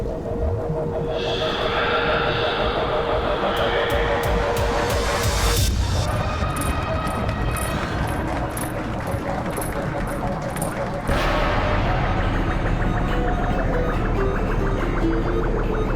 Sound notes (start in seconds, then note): 0.3 music intensifies; 12.3 electronic chirps